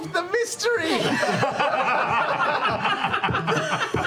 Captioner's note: laughter